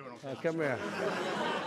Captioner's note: laughter